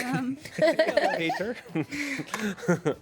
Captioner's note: women laugh